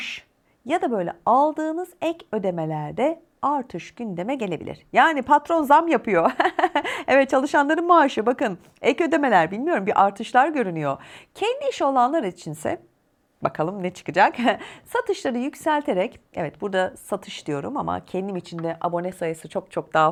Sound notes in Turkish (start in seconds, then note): 6.2 kahkaha